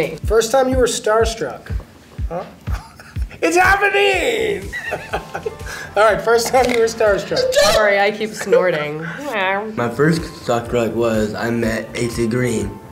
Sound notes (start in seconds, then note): 4.3 Cobie and Michael laugh; 7.2 yells